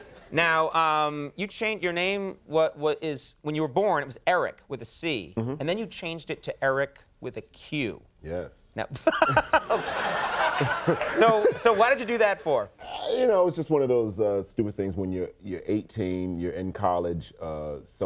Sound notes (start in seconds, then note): 8.9 all laughing